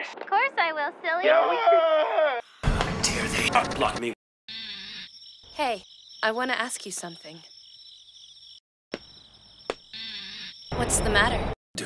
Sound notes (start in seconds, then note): 1.5 weird moaning